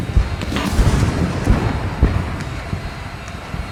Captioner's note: cannons fire